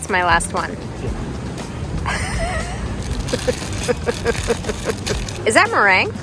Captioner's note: laughing